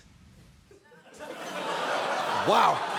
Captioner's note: studio audience laughing